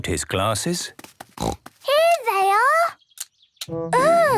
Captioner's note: snorting